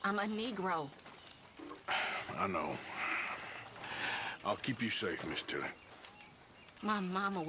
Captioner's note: sighs